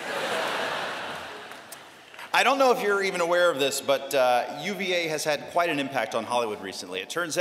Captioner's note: laughter